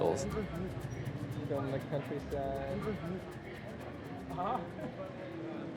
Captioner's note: people speaking in foreign language